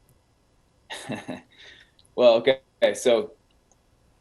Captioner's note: laughs